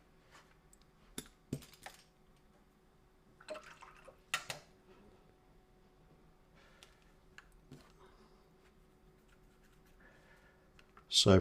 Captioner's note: silence